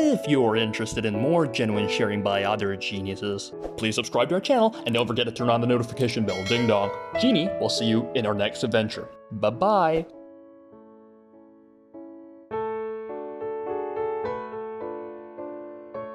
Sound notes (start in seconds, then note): 6.2 ding dong